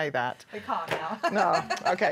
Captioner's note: laughs